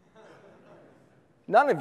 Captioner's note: audience laughs